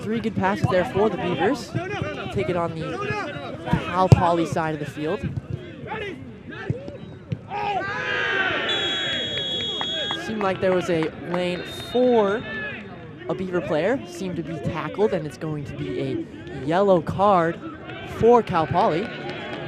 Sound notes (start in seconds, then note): 7.4 shouting; 8.6 whistle blows